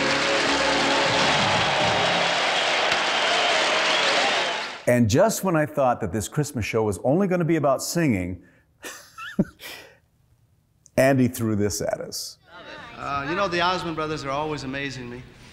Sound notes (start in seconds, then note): 0.0 applause; 9.0 laughs